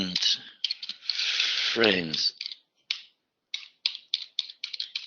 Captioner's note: typing